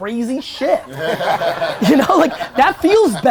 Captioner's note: audience laughter